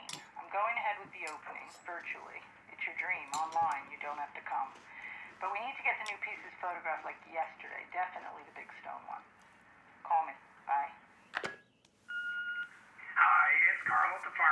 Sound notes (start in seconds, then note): 12.1 machine beeping